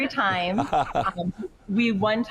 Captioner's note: chuckling